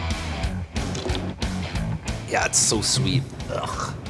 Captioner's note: spitting